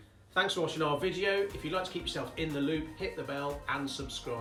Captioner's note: electric Buzz